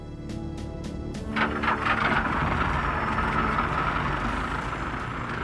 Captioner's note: motor buzzing